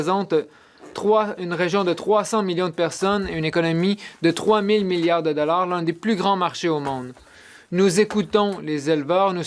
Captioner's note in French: voix de l'interprète